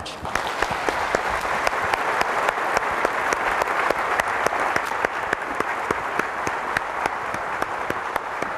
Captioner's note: applause